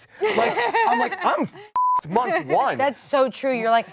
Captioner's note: beeps